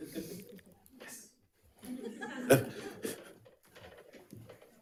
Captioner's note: people laughing